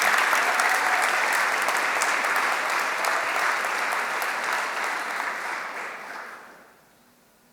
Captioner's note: applause